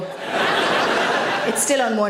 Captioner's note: audience laughs